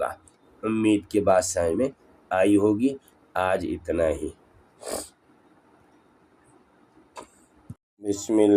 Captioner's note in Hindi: नाक से की जाने वाली आवाज़